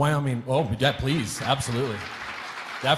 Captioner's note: audience applauding